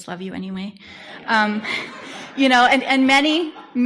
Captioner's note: audience laughter